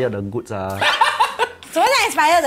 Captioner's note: laughs